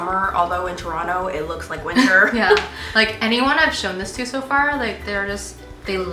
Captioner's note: chuckle